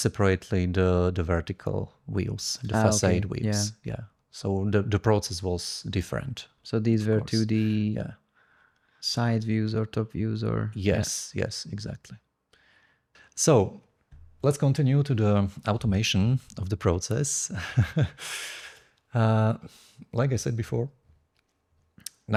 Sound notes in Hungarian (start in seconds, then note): 17.5 nevetés